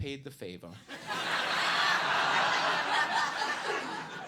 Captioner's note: audience laughs